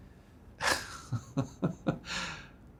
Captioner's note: laughs!